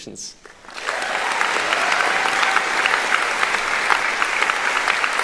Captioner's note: applauding; cheering